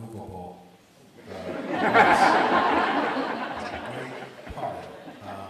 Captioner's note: audience laughs